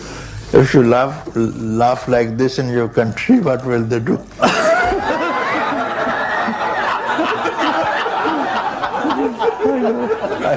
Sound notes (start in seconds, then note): 4.4 laughter